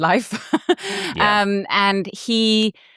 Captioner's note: laughs